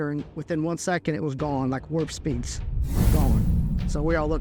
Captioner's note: whoosh